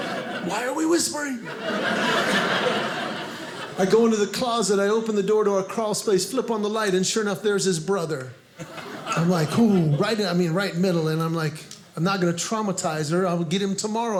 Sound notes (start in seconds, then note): 0.0 audience laughing